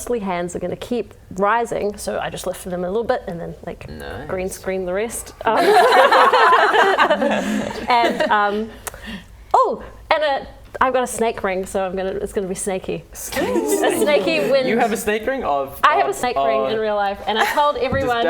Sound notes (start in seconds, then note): 5.5 laughing